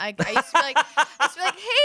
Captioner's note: laughs